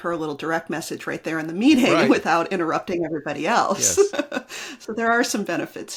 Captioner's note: laughs